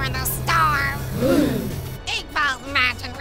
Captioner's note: gasp